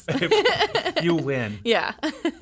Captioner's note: laughing